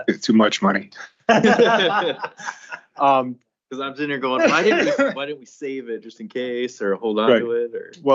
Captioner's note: laughter